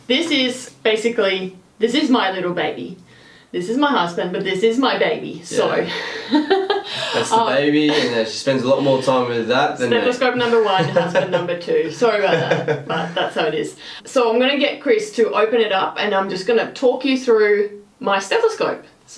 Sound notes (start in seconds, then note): 5.6 laughs